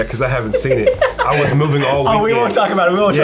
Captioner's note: laughter